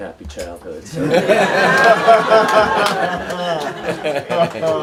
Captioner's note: everyone laughs